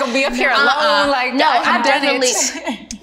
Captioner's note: laughs